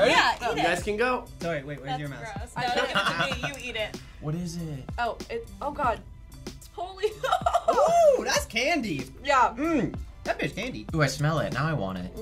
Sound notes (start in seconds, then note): 7.0 laughs